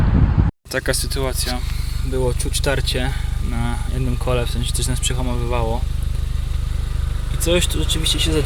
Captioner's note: car braking on it's own